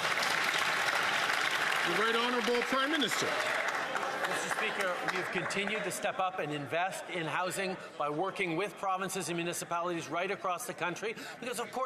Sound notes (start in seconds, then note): 2.2 some Applause